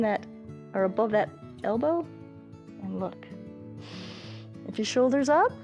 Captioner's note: inhales